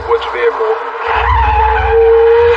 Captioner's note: screeching